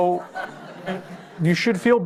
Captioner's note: laughter